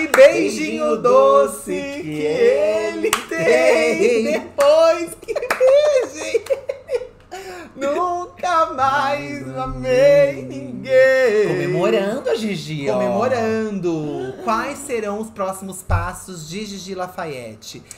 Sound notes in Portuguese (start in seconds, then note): 0.1 ambos cantam; 5.0 gargalhada; 7.2 ambos cantam